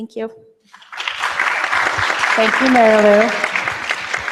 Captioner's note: applause